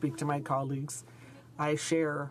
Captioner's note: speaking in french